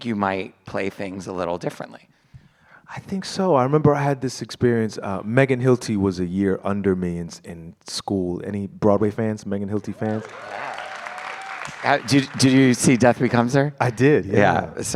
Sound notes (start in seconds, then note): 9.8 applause